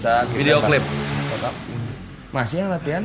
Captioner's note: sound of motorcycle speeding again